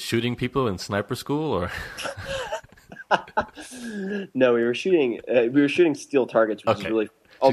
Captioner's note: laughs